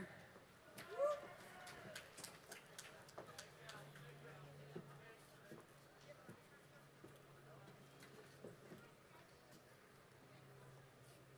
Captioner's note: applause